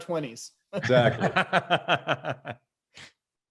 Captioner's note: laughs